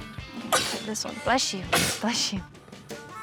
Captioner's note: sneezing